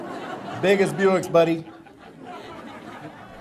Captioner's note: audience laughter